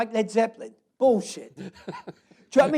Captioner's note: laughs